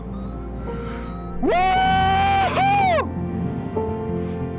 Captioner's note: sounds of pure joy